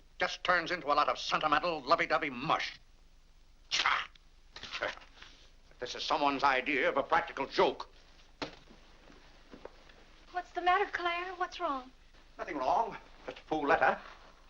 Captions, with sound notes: It just turns into a lot of sentimental, lovey-dovey mush. (grumbles) (paper crumples) If this is someone's idea of a practical joke... - What's the matter Clare? What's wrong? - Nothing wrong, just a fool letter.